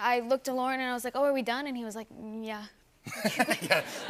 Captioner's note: laughter